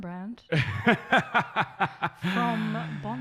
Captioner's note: laughs